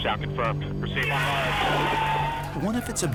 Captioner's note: cheering, applause